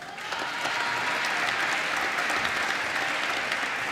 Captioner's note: applause